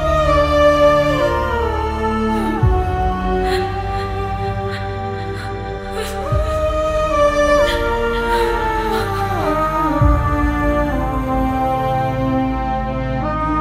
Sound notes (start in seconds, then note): 3.1 sobs